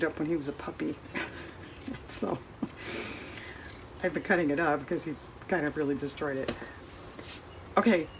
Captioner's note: laughs